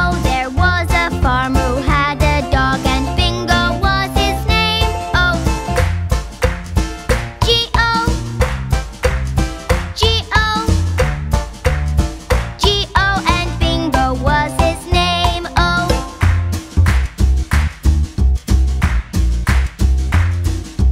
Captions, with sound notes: There was a farmer who had a dog and Bingo was his name-o. [clap][clap][clap] -G-O [clap][clap][clap] -G-O [clap][clap][clap] -G-O. And Bingo was his name-o. [clap]